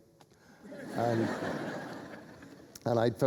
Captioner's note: laughter